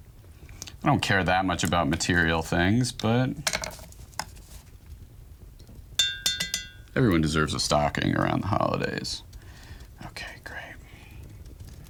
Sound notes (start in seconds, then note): 4.2 brush clinking